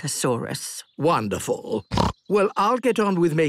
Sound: snorts

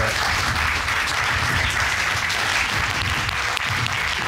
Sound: audience applauding

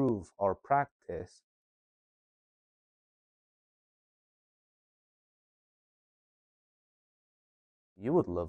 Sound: silence

